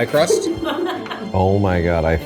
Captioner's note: all laugh